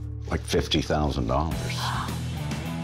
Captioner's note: gasps